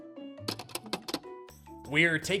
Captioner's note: gentle music; film clicks